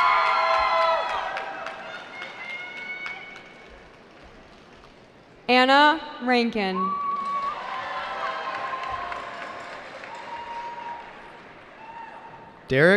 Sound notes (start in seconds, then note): 0.0 cheering; 6.9 cheering